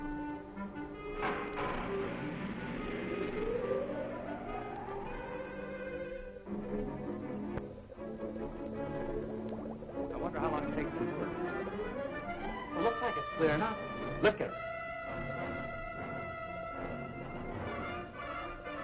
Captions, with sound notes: (machinery whirring) I wonder how long it takes. - It looks like it's clearing up. - Let's get her.